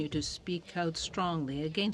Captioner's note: speaking French